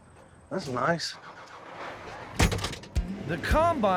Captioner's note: closes door